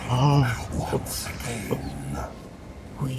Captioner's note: silent giddy laughter